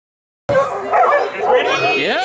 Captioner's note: dogs barking